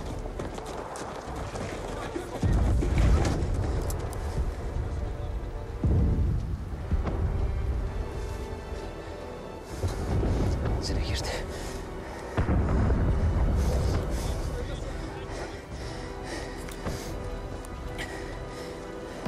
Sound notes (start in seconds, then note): 15.6 breathing heavily